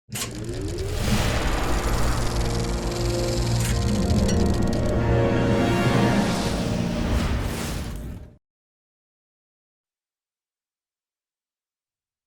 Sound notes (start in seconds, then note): 0.1 film reel spooling up